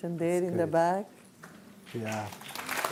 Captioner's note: applause